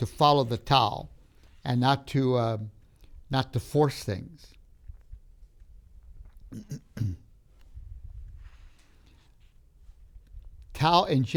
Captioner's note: clears throat